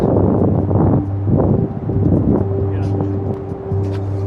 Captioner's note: wind blowing